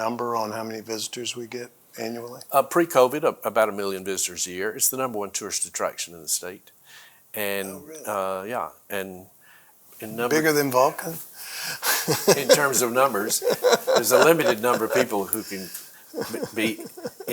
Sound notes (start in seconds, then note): 11.8 laughs